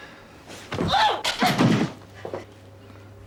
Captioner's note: grunts